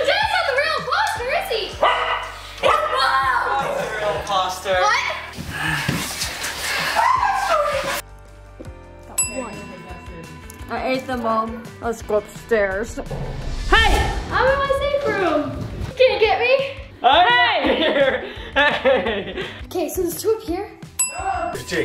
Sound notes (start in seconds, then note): 1.8 dog barking; 6.9 screaming; 21.0 dinging